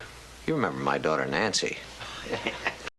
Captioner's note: chuckling